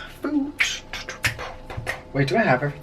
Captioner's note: beatboxing